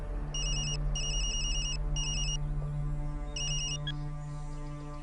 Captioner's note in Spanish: Suena el celular